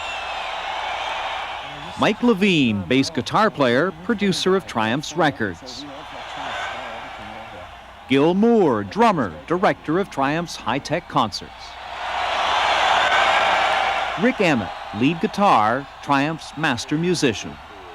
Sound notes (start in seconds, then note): 0.1 crowd cheers; 6.2 cheers; 12.0 cheers